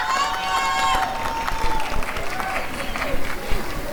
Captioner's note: applause and cheering